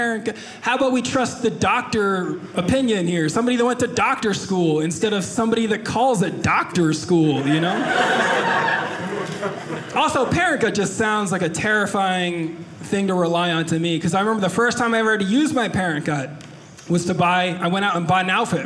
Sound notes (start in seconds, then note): 7.3 audience laughing